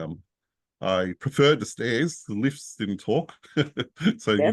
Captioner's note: laughs